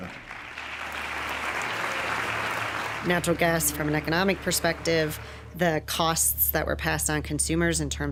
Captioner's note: audience applauding